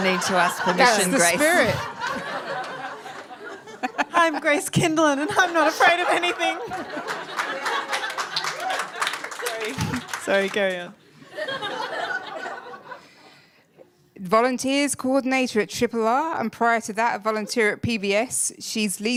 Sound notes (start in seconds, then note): 7.0 applause; 11.2 laughter